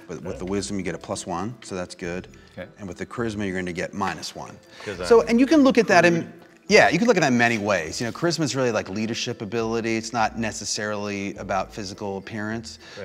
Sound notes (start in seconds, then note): 6.4 murmurs and laughter